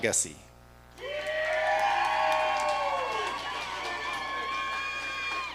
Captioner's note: audience cheering